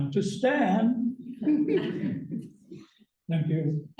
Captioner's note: laughter